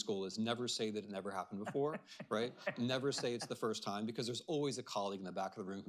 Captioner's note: laughter